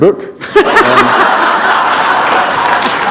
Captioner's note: laughter